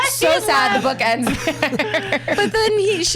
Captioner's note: laughs